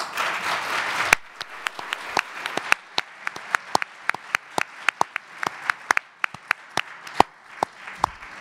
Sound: audience applause

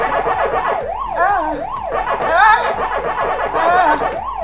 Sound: whimpering

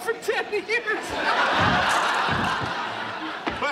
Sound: laughing

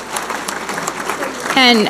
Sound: audience applauding

